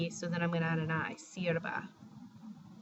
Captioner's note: spanish